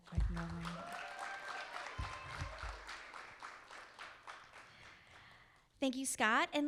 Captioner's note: audience applauding; audience cheering